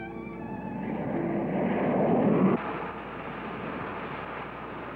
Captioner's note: plane engine humming